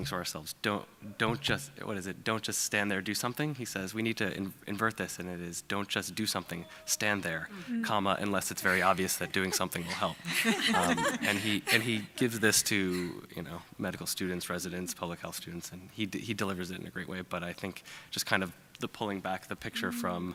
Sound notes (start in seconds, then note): 10.8 laughing